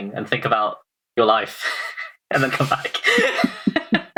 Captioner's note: laughing